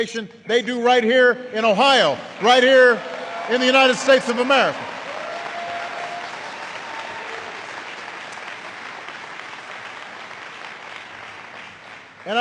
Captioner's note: applause